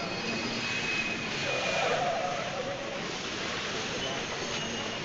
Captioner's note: tires screech